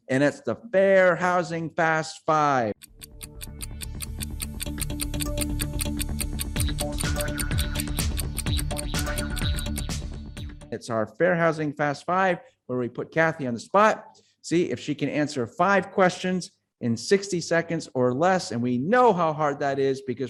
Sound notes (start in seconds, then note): 3.0 clock ticking; 4.7 upbeat music